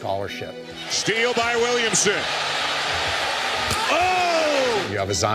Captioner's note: crowd cheers